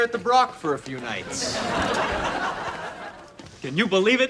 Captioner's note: laughs